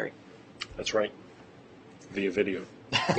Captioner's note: laughter